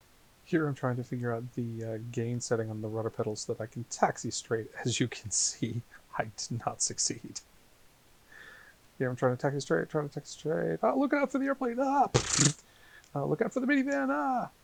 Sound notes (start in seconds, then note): 12.2 thud